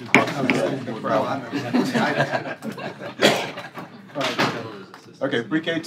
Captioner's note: gavel banging; laughter